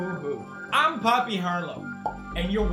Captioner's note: pops